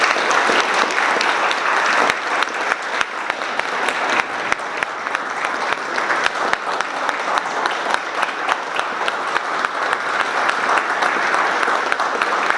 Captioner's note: applause